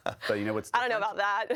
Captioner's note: laughing